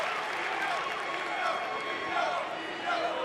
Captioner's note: crowd cheering